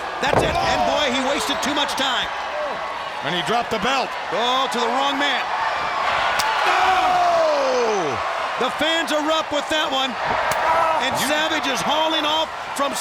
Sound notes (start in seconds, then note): 7.3 crowd cheers